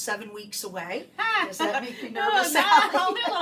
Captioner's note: laughs